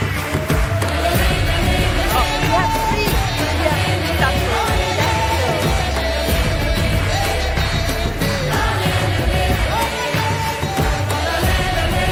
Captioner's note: cheering/Applause